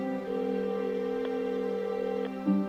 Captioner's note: line ringing